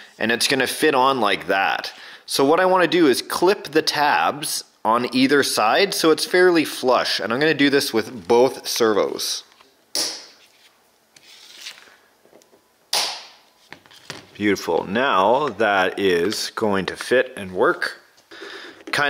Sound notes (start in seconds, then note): 9.9 snapping